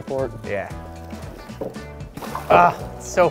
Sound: laughs

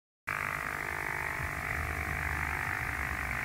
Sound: low, electronic buzzing

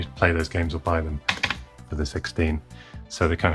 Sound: keypad tapping

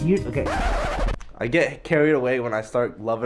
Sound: record scratch

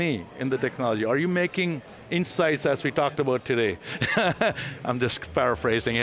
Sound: laughs

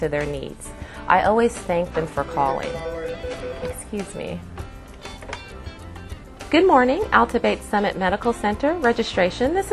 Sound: phone rings

